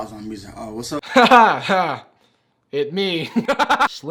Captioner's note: laughing; laughing